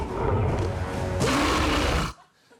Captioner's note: roaring